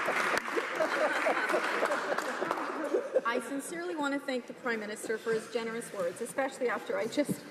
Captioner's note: laughter